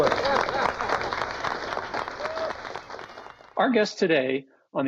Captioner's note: applause